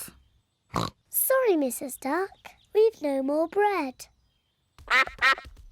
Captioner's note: snorts; quacks